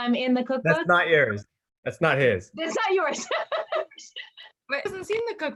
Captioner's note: laughs